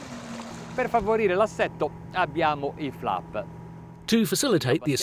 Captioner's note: speaks in foreign language